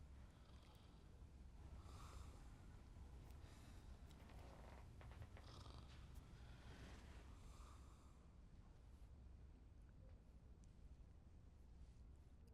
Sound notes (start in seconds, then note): none